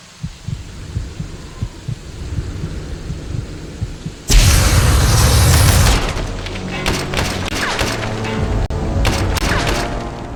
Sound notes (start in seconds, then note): 6.4 The sound of Skulls dying, riddled with bullets